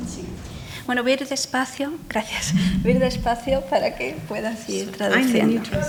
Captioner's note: speaking in foreign language